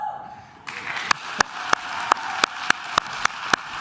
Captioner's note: claps